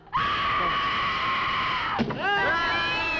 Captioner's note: screams; Nan screaming; people cheering